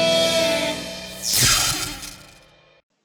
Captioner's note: zap